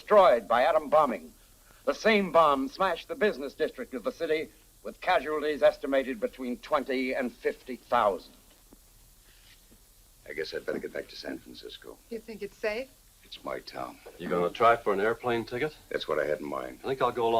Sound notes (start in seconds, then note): none